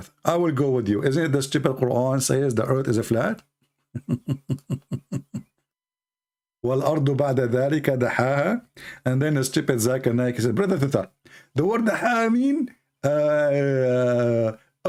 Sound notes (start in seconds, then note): 3.9 Ketawa